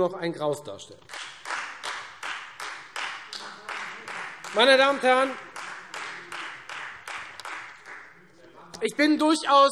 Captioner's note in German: Beifall Freie Demokraten